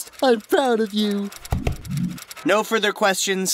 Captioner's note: patting sound